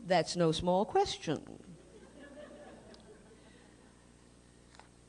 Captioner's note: laughter